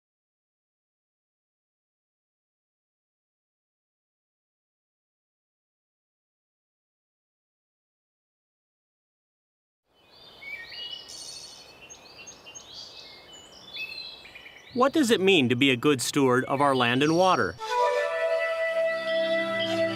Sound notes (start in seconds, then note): 11.8 birds sing